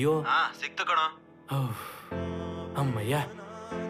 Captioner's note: sighs deeply